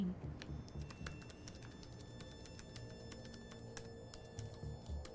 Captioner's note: laptop keyboard clicking